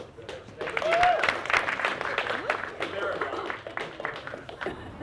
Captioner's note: clapping